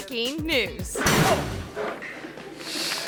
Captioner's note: spotlight clangs; audience applauding